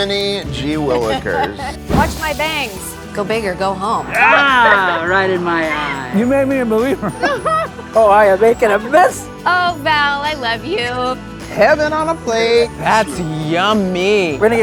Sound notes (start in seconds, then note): 6.8 both chuckle